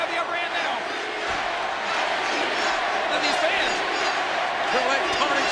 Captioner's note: applause